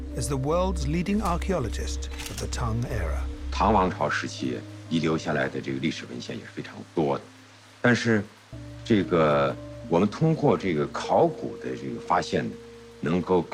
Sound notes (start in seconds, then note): 3.9 speaking in foreign language